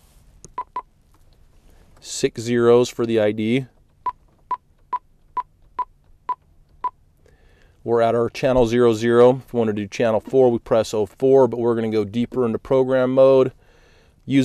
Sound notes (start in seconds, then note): 4.0 beeping